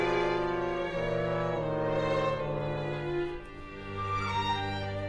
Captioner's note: none